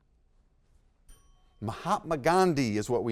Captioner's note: bell dings